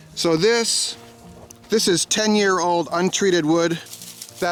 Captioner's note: none